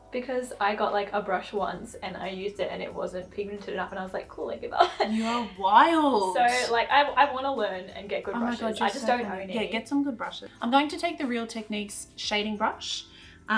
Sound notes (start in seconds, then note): 4.8 laughs